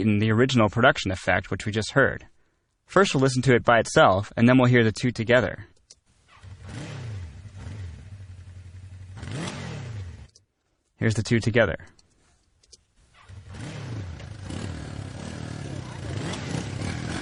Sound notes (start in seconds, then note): 6.6 motorcycle revving